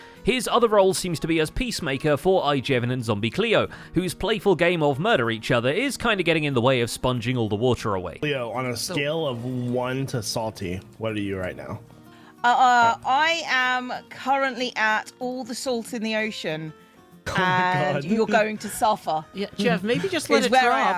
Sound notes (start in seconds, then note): 17.2 laughs